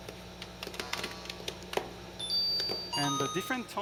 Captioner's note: tones playing